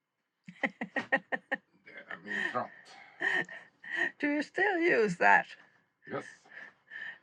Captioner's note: laughter